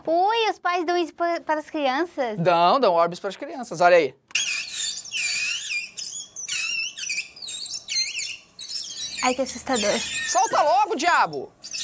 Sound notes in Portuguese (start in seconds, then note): 4.3 orbes faz barulho agudo; 11.6 orbes faz barulho agudo